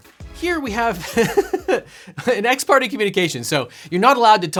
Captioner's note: laughs